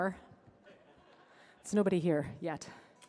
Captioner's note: audience laughing